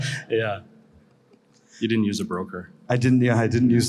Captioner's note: laughs